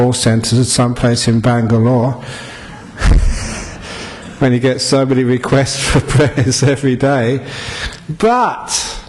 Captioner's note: laughs